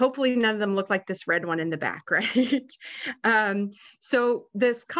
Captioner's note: chuckles